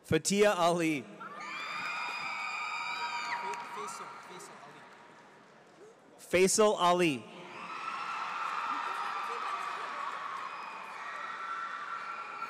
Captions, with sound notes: Fathia Ali. (audience cheers) Feysal Ali. (audience cheers)